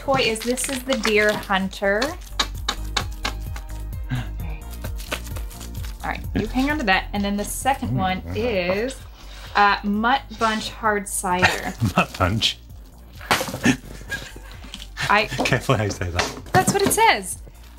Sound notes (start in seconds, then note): 13.5 laughing